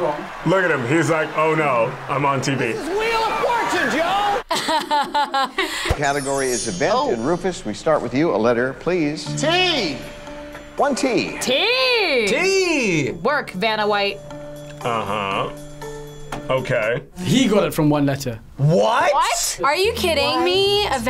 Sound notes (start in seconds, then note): 4.4 both laugh